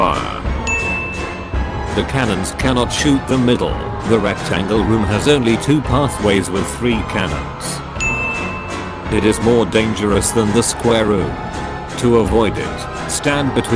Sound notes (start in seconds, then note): 0.6 ding